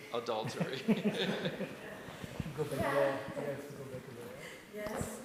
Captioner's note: scattered chuckling